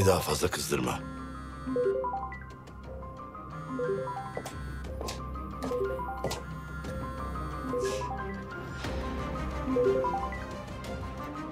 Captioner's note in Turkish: Telefon Çalıyor